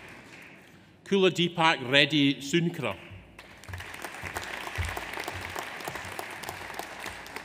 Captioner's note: audience applauds